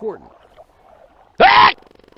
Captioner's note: HL Scientist Scream